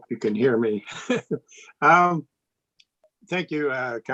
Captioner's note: laughs